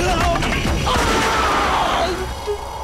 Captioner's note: Gunshot